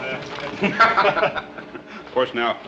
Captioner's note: laughter